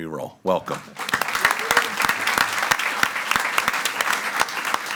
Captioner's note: all applauding